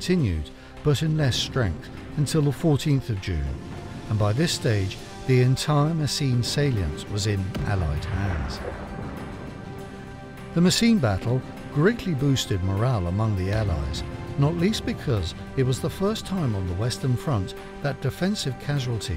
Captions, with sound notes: German counterattacks continued, but in less strength until the 14th of June and by this stage, the entire Messines salient was in Allied hands. [explosion booms] The Messines Battle greatly boosted morale among the Allies, not least because it was the first time on the Western Front